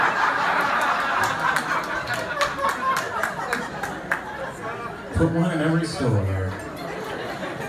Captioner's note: laughter